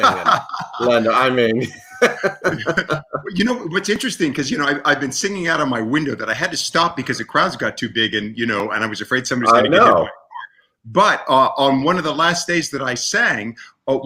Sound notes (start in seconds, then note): 0.0 laughs loudly; 0.0 laughs